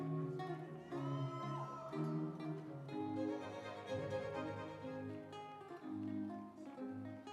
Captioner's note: instrumental music; audience cheering